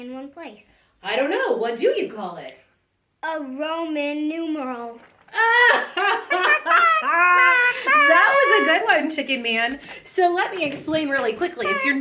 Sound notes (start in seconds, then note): 5.3 laughs